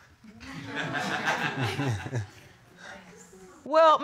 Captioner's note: laughter